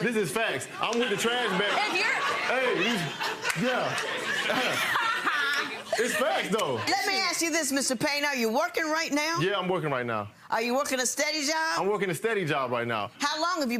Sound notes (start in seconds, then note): 2.9 audience laughing; 4.7 audience laughing